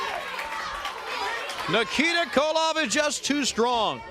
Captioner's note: crowd chatter